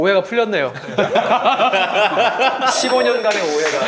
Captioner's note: laughs